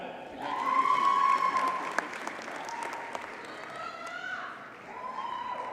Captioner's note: audience cheers and applauds